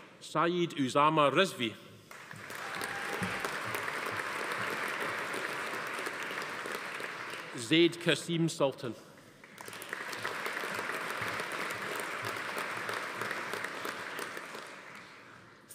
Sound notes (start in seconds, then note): 2.1 audience applauding; 2.4 attendee cheering; 9.3 audience applauding